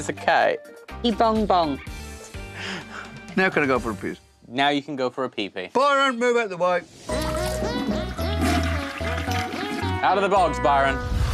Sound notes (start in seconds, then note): 1.7 chuckles